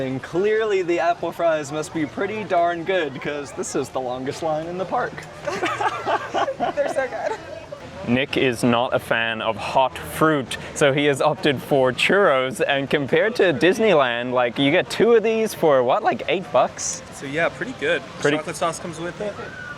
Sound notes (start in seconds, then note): 5.4 laughter